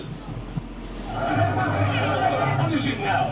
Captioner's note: people in mob speak angrily